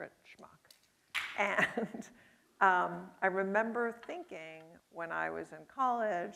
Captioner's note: chuckles